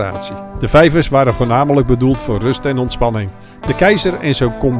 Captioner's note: voiceover